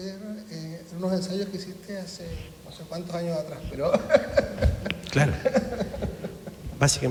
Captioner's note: laughs